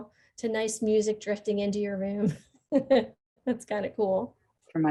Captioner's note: chuckling